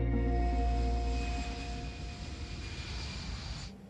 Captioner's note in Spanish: Ruido de motores